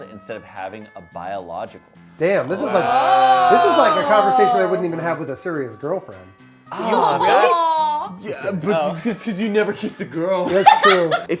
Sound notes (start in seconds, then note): 2.4 groans